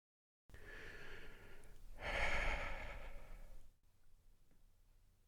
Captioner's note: sigh